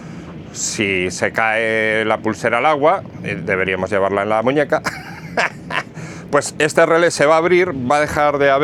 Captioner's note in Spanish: risas